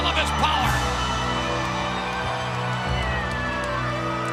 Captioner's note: audience cheers